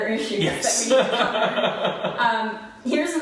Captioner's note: laughing